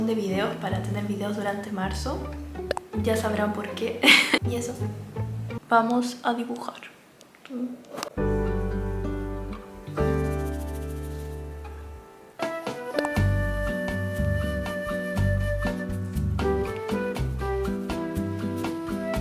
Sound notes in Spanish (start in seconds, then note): 7.0 risas